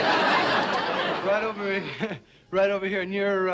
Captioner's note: crowd laughs